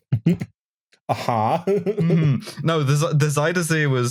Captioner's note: snarkily